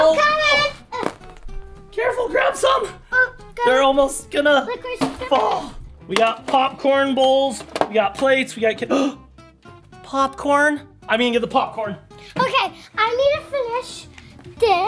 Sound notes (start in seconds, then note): 8.9 gasping